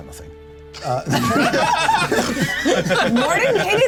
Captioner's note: laughter